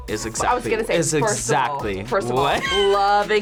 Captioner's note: laughs